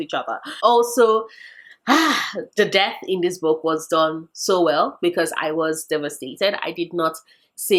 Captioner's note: sigh